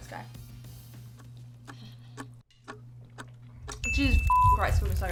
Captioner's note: clock ticks